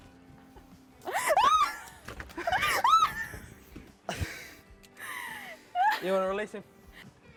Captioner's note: screams